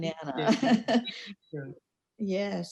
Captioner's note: laughing